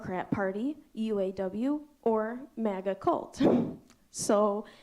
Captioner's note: chuckles